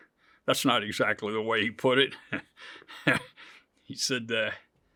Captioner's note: chuckles